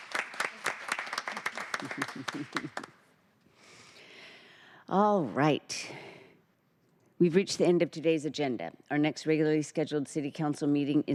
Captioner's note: applause